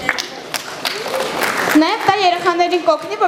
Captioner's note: applause